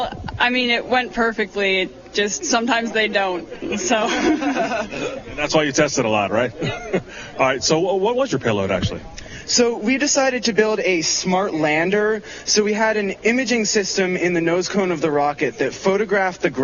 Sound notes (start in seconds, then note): 6.5 laughter